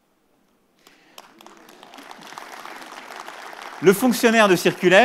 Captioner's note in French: Applaudissements